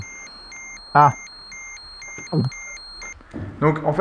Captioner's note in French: alarme